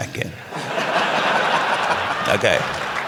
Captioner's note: laughter